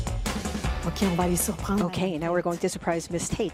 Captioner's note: French